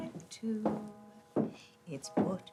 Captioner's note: shoes tapping